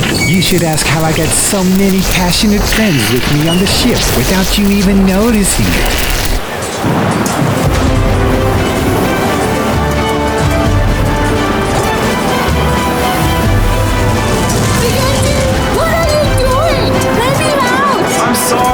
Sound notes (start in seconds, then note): 7.0 thunder rumbles; 7.0 waves crash